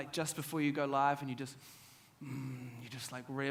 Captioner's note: inhales